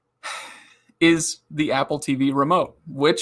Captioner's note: sighs